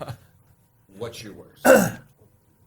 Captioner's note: laughing